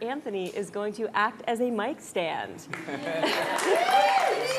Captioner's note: crowd cheering